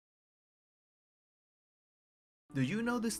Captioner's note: silence